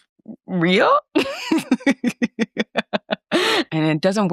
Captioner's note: laughs